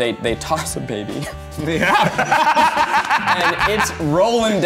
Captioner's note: laughing